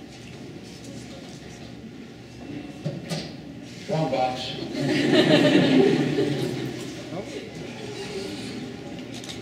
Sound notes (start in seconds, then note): 4.8 laughing